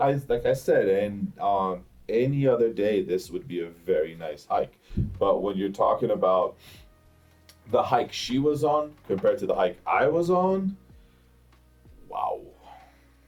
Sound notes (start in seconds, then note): none